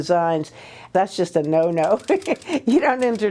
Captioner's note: laughs